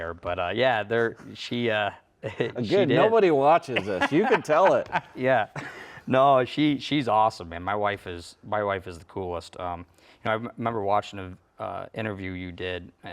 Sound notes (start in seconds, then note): 3.7 laughs